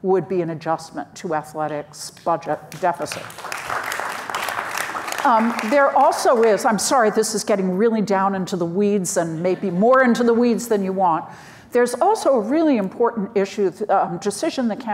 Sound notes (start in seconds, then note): 3.0 audience applauds